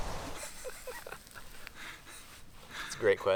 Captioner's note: laughing